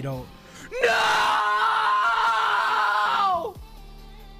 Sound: screams

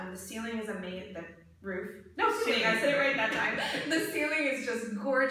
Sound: both laugh

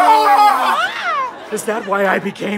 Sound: gasps

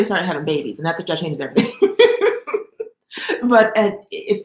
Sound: laughs

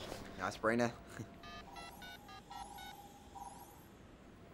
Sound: phone dialing

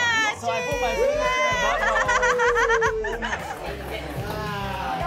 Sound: partygoers cheering; party sounds

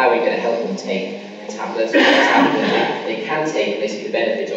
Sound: coughing masks speaker

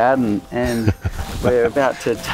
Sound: laughing

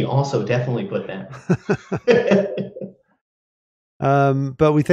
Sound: laughter

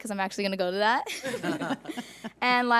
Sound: laughing

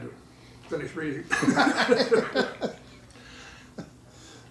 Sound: laughing

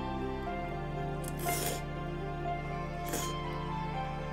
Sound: slurp

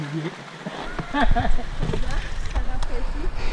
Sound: laughs

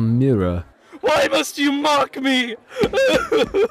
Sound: crying

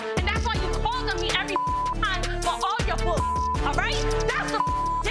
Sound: beep

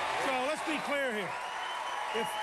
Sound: applause

